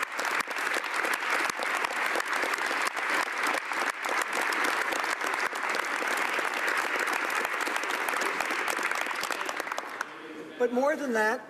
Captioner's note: applause